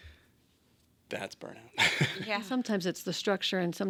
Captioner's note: laughs